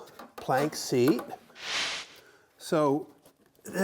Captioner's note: air whooshes